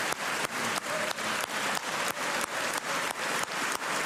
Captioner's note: cheers and applause